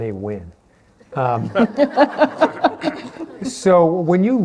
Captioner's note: laughter